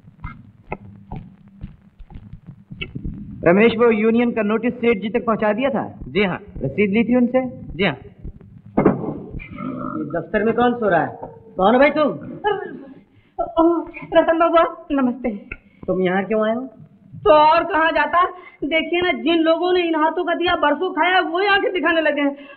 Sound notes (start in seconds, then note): 8.7 drawer closes; 9.5 snoring